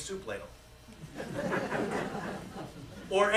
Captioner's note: laughter